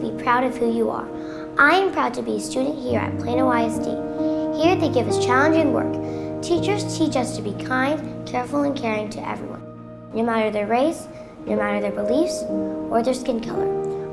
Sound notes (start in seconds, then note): none